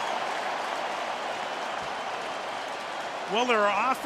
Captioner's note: cheering